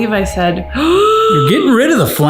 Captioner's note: gasps